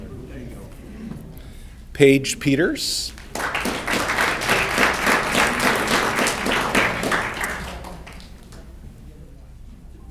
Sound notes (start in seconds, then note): 3.0 audience clapping